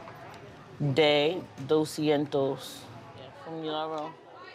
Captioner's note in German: Spanisch gesprochenes Audio